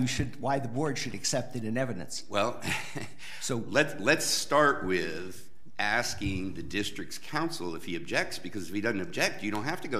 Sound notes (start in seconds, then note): 2.6 chuckles